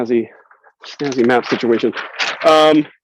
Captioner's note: paper rustles